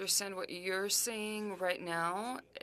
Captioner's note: speaking french